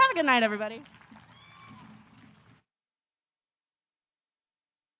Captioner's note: audience applause